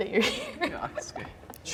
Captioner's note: laughing